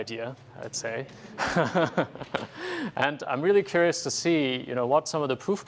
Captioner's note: laugh